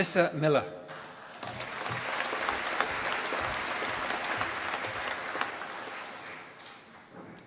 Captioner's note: applause